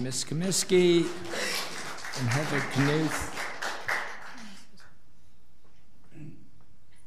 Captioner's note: audience applauds